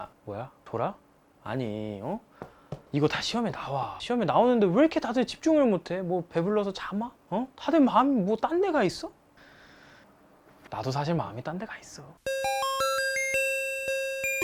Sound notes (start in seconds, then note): 9.4 inhale